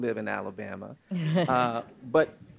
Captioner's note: laughing